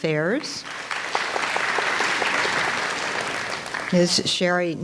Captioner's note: audience applauds